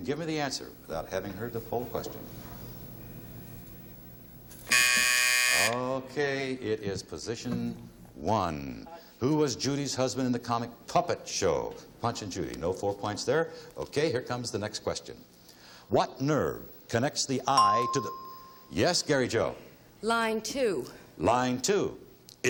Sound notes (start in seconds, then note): 4.6 buzzer; 17.5 ding